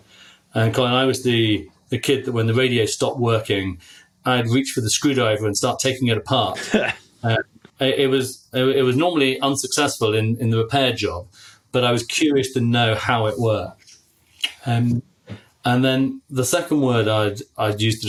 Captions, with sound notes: And I was the kid that, when the radio stopped working, I'd reached for the screwdriver and start taking it apart. (laughing) I was normally unsuccessful in the repair job, but I was curious to know how it worked. And then the second word I'd use